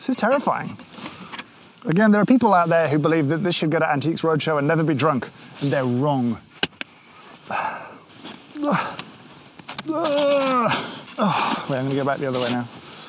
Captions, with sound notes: This is terrifying. Again, there are people out there who believe that this should go to Antiques Roadshow and never be drunk, and they're wrong. (groans) I'm gonna go back the other way now.